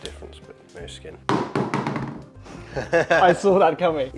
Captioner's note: thud